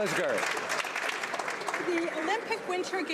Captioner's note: some Applause